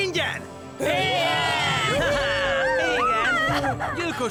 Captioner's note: cheering